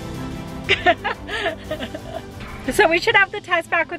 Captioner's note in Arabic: يضحك